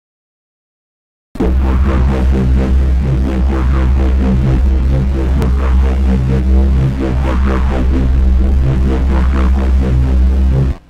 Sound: sound of pulsating drone

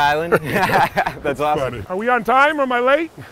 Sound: laughs

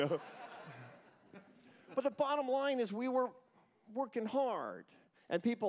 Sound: laughter

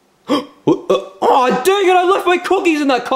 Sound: gasps

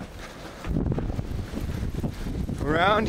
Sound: wind blowing

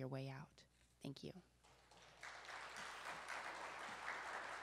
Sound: applause

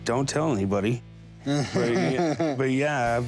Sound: laughs

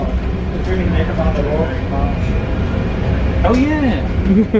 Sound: riders chattering

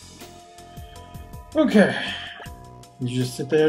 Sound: sighing

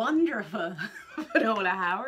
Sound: laughs

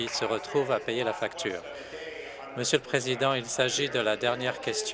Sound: applause

